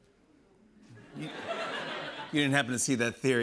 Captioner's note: laughter